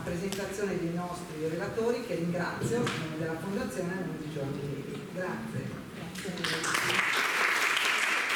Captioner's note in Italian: Applauso